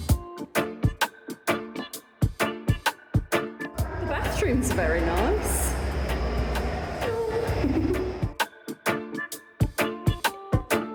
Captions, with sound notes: The bathroom's very nice. Hello! [chuckle] [chill reggae beat]